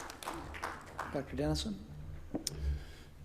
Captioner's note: applause